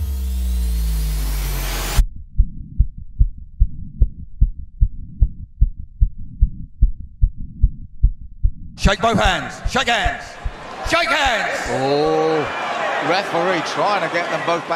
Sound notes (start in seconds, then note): 2.6 heart pounding